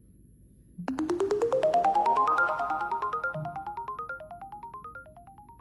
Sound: electronic Bleeping

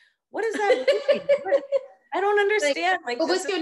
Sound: laughing

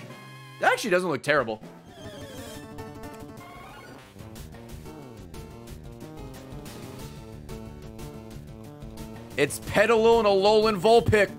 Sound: laughs

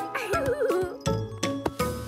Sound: more laughter

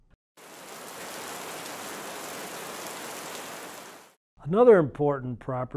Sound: heavy rain pattering

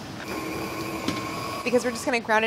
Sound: machine whirring

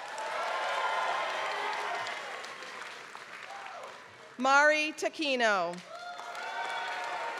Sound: applause; applause

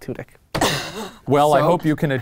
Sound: laughing

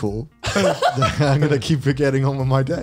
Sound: laughs

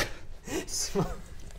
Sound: giggles

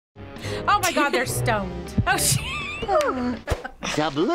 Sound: laughs

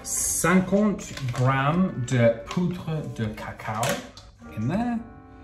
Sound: speaking in foreign language

